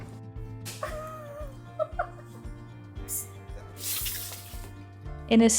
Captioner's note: laughter